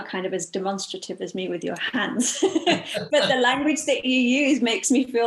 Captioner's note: laughs